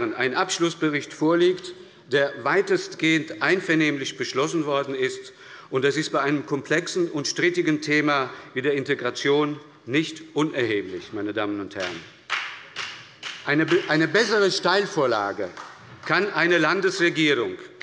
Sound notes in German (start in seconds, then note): 12.2 Beifall bei der SPD und FDP